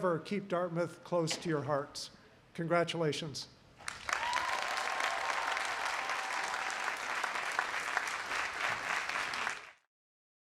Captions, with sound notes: And may you forever keep Dartmouth close to your hearts Congratulations. (applause)